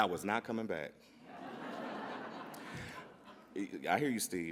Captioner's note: audience laughs